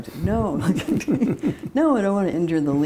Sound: laughter

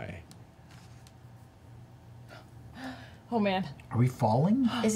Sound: inhales

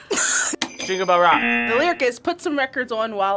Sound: laughs; bells jingling; buzzer

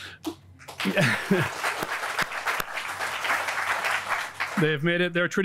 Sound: audience applauding

